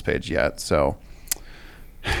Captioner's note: sighs